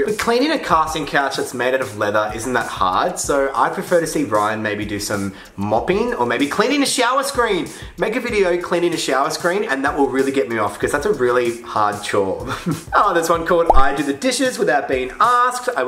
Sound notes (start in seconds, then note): 12.6 laughs